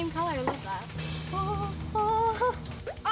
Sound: moaning

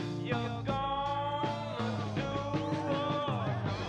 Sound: men cheering

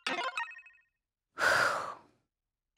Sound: sighs

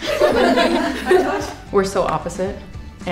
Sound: laughing

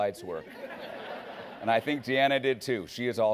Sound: laughing

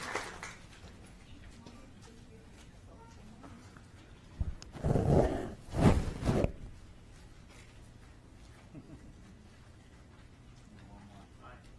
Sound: applause

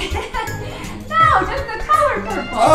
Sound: Mickey laughs

